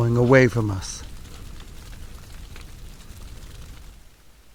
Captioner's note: fire crackling